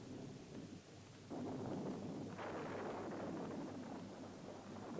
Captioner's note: thunder rumbling